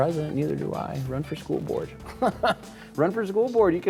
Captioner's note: laughs